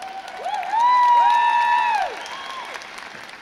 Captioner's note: crowd cheers